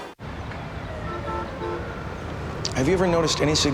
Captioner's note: cars honking